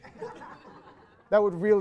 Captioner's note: more audience laughter